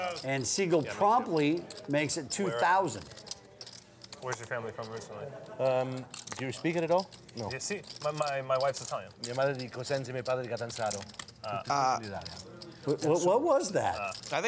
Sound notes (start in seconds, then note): 9.3 speaking in Italian